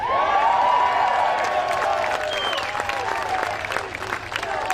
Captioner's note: cheering and applause